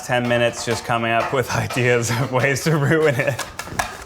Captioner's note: laughing